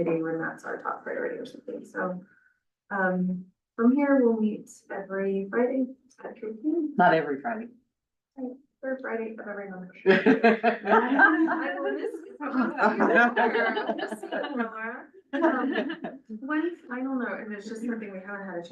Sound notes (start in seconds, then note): 10.0 laughs